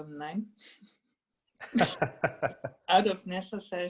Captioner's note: laughing